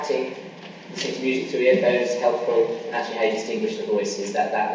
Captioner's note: coughing masks speaker